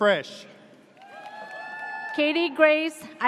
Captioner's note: audience cheers